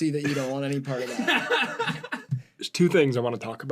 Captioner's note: laughter